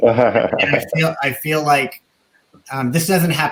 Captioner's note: laughing